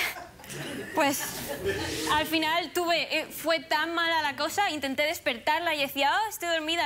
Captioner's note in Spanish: risas